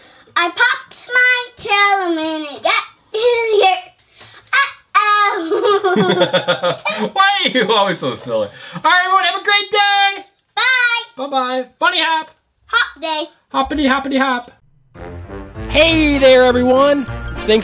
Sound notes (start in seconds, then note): 5.4 laughing